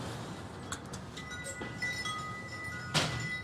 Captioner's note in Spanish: campanita tintinea